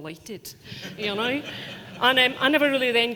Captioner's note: audience laughing